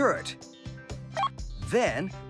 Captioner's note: computer Beep